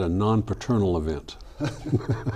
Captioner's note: laughing